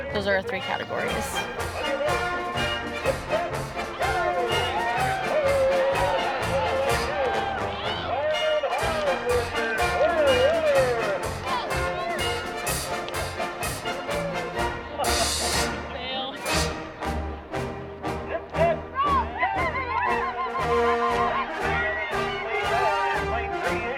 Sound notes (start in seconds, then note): 2.4 crowd cheering; 2.4 marching band music